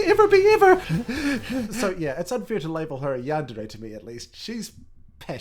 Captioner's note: pant pant